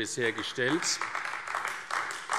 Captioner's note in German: Demonstrativer Beifall AfD